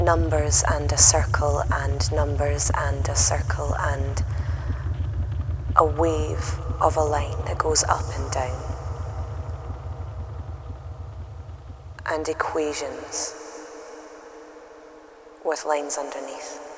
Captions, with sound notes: numbers and a circle and numbers and a circle and... [ VOICE ECHOES ] a wave of a line that goes up and down [ PULSE FADES ] and equations [ ECHO GROWS ] with lines underneath